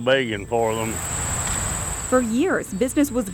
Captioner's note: bugs chirping; wind blowing